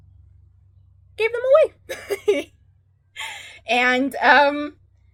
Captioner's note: laughs